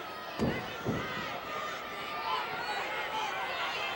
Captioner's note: floor banging